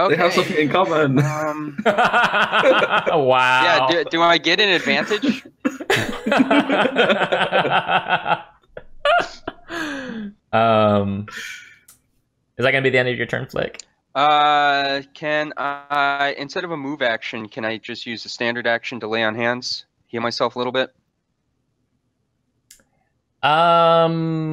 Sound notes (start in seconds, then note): 8.2 laughter